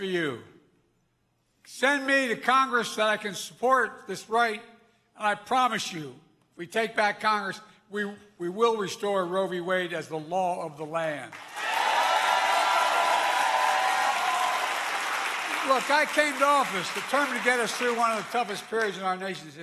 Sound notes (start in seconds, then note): 14.2 applause